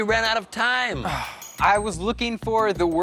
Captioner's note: sighs